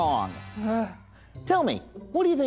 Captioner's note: sighing